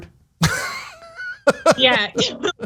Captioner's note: laugh